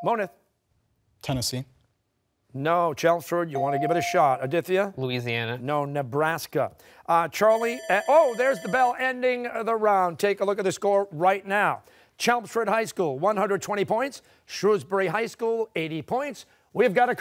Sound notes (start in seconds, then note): 7.3 bell dings